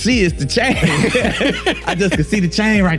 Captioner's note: laughing